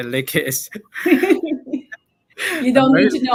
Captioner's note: laughter